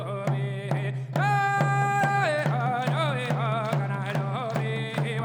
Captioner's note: dancers clapping